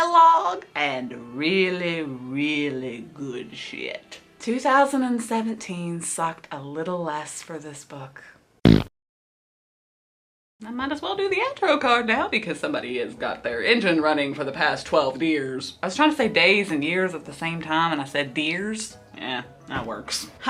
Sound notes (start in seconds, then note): 8.6 fart noise